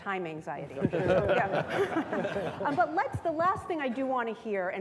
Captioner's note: all laughing